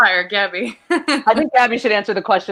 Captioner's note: chuckles